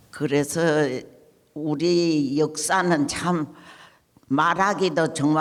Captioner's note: speaking in foreign language